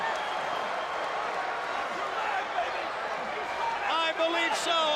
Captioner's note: crowd cheering